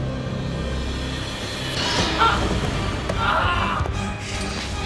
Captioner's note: screams